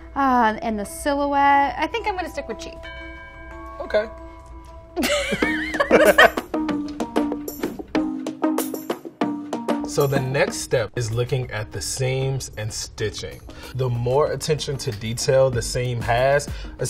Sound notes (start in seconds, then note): 5.0 laughing; 5.2 electro pop music